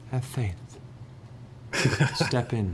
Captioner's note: disbelieving laugh